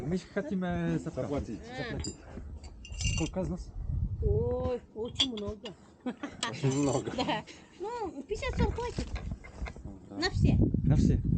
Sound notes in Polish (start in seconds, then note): 6.0 śmiech